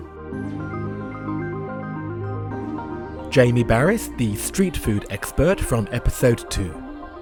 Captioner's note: voiceover